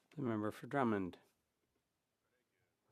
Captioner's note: speaking French